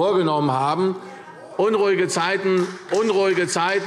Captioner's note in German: Beifall und Zurufe Freie Demokraten